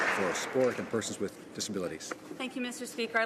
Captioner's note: some Applause